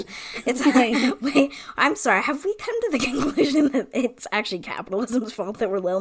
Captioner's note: laughing